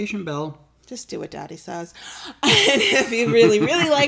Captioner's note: laughs